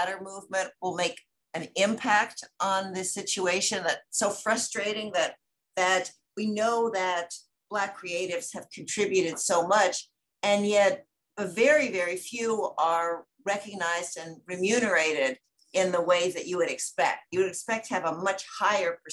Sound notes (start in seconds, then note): none